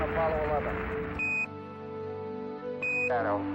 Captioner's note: Quindar tone